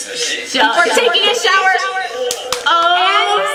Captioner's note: echoing